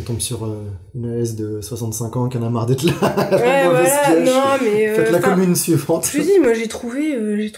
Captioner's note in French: rire